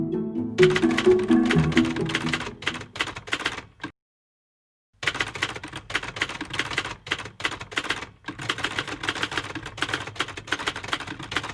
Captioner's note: typing sounds